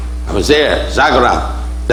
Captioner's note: speaking foreign language